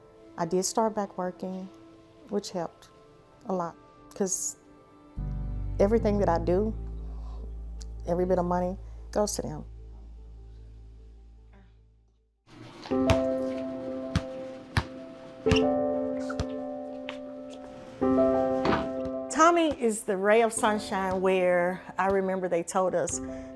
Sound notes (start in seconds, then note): 12.6 somber music; 13.0 ball thudding